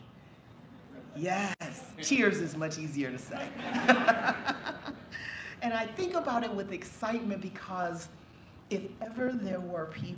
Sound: laughter

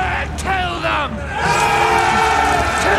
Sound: all shouting

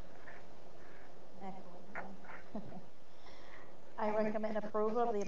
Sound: chuckles

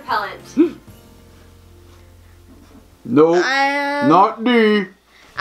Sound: gasps

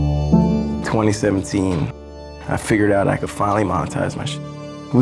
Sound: beep

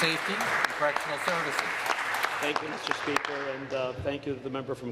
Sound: applause

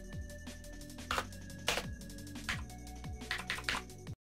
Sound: tapping keyboard

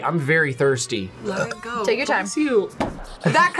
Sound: burps

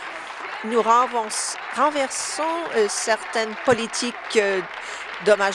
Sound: applause

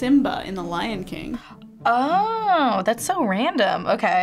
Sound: gasping

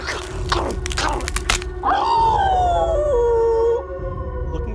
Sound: starts growling; howls

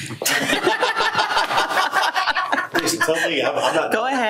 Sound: board members laughing

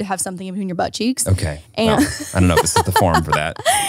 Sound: laughs

